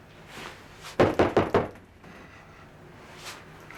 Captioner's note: banging